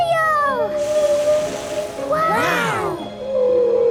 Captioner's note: gasps; whale calling